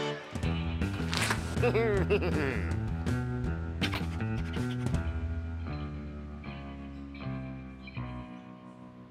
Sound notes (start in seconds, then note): 1.5 chuckles